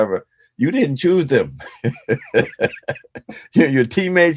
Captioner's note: laughs